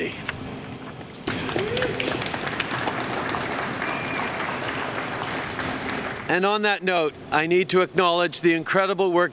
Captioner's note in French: Applaudissements